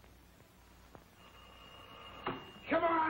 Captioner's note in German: Telefon klingelt